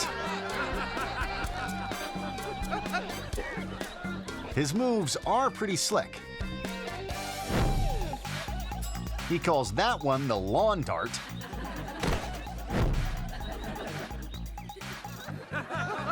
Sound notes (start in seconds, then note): 0.0 guests laughing; 0.1 upbeat music; 6.3 upbeat music; 7.4 air whoosh; 8.6 bell ringing; 11.0 audience laughing; 12.0 dancer thudding; 13.6 audience laughing; 13.6 lively music; 15.9 guests laughing